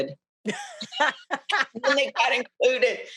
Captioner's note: both laughing